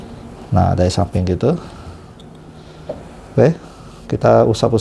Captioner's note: none